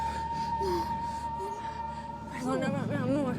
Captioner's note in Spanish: gemidos cada vez más apagados